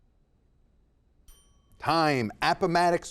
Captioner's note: timer chimes